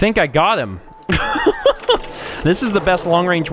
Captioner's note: chuckle